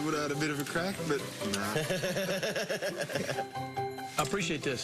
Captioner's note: laughter